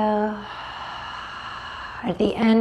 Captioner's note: deeply exhales